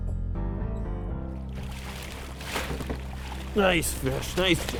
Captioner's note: water splashing